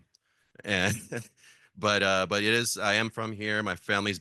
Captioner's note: laugh